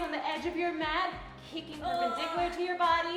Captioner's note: groaning